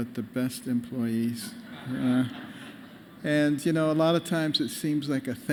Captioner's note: laughter